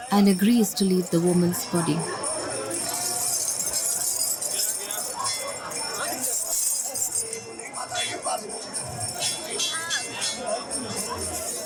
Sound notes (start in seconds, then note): 2.2 bells jingling; 2.4 iron chains clanking